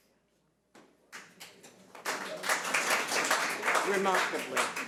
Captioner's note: audience applauds